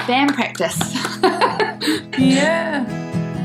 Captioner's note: clapping